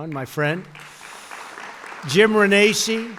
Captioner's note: applause